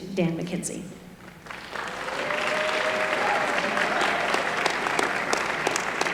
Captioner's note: applause